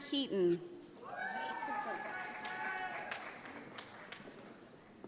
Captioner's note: audience applauds